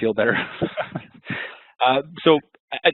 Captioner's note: laughing